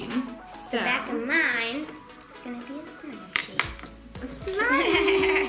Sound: laughs

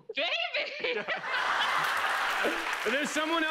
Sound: laughter

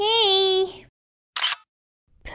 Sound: click!

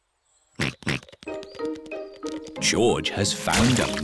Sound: snorts

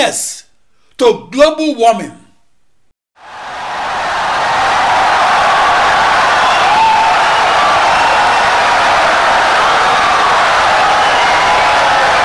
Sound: wild applause and cheering for 17 seconds

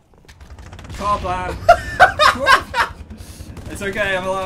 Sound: laughs

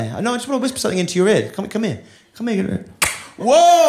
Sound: smooches

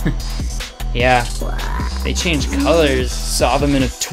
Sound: chuckles

